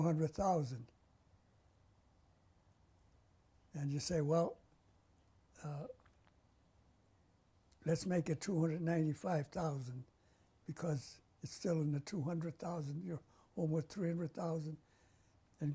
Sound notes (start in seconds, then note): 5.6 pauses for 3 seconds